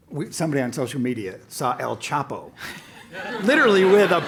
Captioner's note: laugh